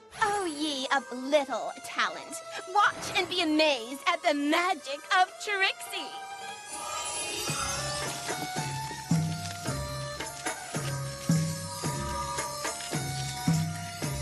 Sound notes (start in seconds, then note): 6.4 tinkling; 7.5 snake charmer's music plays